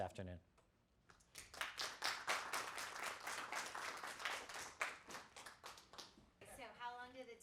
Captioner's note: clapping